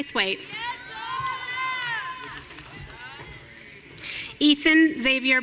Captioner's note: audience cheering